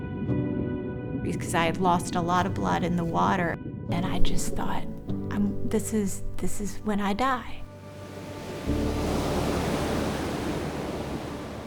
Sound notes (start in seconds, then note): 7.9 water splashes